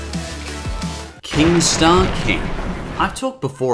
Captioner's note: thunder